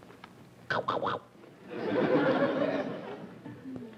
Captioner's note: mimics chomping